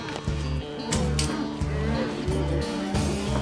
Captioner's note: mooing; clicking, piercing sound; clanking sound